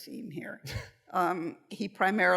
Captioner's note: laughter